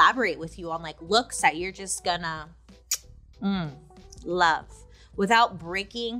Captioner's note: kisses